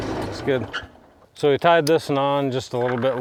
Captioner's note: vehicle engine roaring; vehicle engine stopping